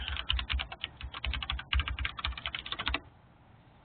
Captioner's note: keyboard clicking